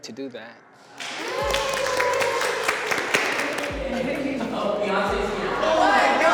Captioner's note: everyone clapping and whooping